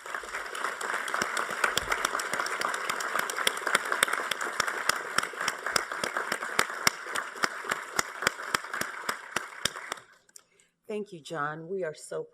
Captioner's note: applause